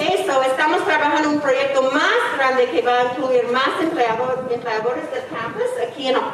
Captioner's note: speaking in foreign language